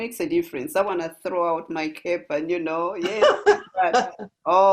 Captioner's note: laugh